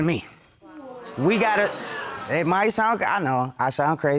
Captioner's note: audience exclaims